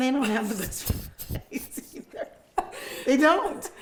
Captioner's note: both laughing